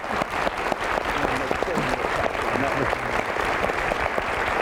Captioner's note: applause